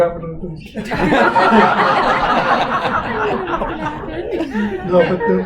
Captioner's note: audience Laughter